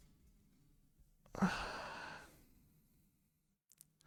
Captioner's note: sigh